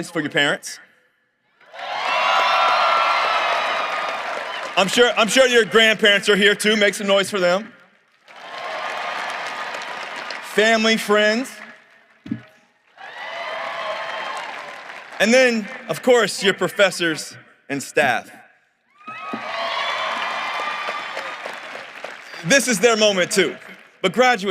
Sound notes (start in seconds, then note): 12.8 cheering and applause; 19.1 applause